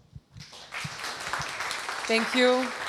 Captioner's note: applause